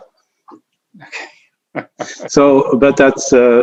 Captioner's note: chuckling